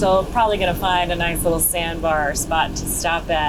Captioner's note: none